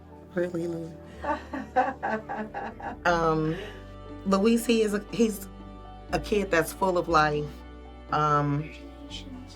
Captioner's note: laughter